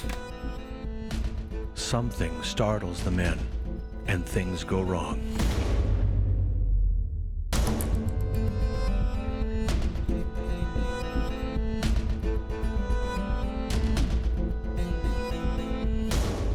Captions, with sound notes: Something startles the men and things go wrong. (long gun fires) (dramatic music)